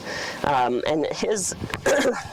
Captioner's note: coughs